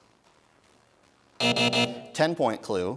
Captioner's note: buzzing